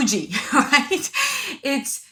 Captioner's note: laughs